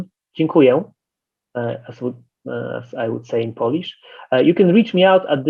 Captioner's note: speaking polish